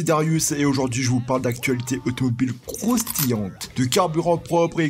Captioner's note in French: bruit croustillant